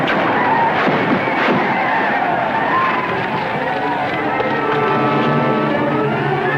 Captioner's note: gunfire popping; tribe yelling; dramatic orchestral music